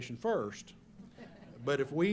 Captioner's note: laughter